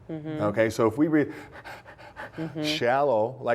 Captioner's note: heavy breathing sound